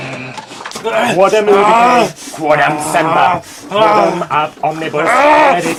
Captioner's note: monster grunting; man speaking foreign language